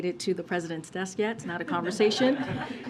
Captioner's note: laughter